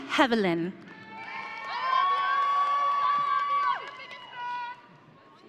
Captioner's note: audience cheering